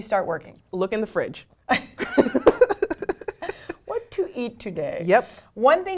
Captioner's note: laugh